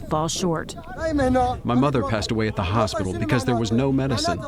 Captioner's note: through translator